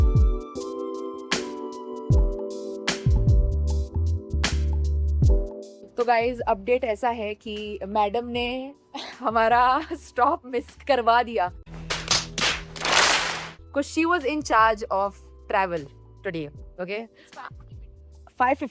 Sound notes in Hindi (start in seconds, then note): 8.9 हंसी